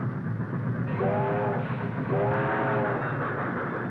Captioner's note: train whistle